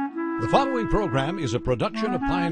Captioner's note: voiceover